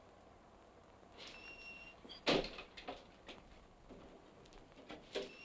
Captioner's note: door creaks